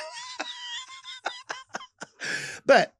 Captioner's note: Lady Bunny laughs